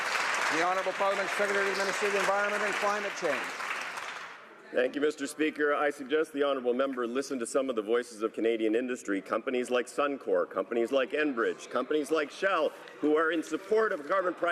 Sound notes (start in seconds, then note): 2.4 some Applause